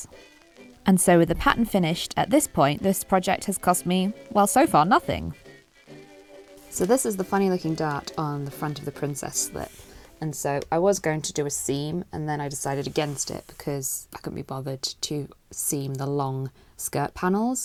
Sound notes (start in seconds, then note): none